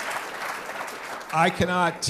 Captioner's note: applause